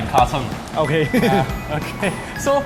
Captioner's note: awkward Laughter